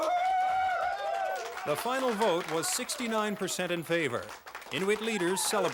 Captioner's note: cheering and clapping